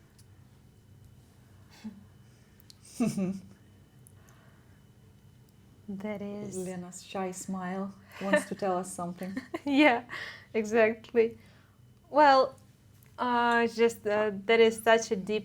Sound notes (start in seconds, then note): 2.9 mysterious hehe